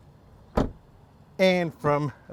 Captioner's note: door closes